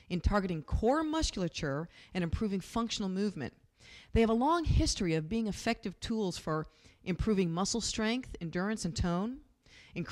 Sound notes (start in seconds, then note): none